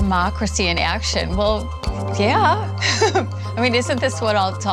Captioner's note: laughs